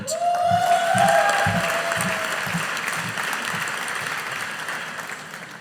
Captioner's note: audience applauding